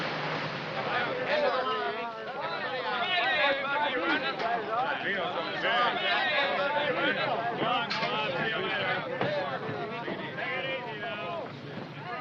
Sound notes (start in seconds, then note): 2.6 chattering